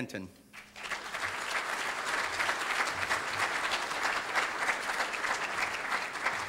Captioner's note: audience applauding